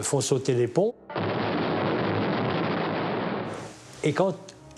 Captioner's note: explosion booms